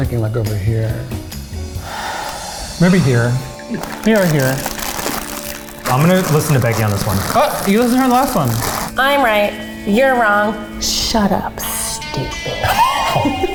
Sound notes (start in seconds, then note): 2.4 sighs; 5.5 bags rustling; 12.7 laughing